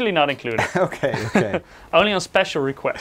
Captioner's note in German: lacht